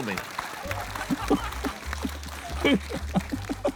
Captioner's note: applause; laughs